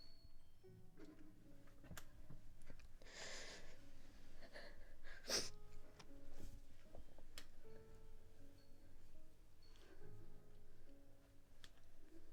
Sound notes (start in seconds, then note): 0.1 soft haunting piano music continues; 3.0 Grace continues breathing heavily; 5.5 Grace sniffles; 6.7 soft haunting piano music continues